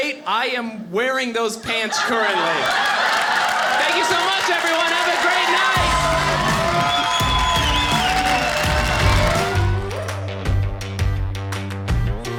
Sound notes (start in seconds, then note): 2.4 audience applauding; 7.3 audience cheering